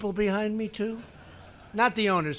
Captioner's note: laughter